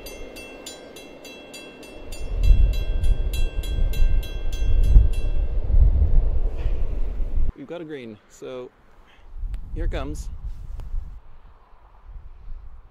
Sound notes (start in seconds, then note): 2.0 wind buffets microphone, crossing bell stops